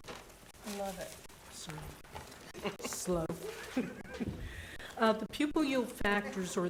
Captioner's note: chuckles